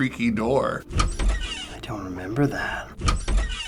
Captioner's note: door creaking